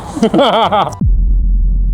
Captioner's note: laughing; dramatic music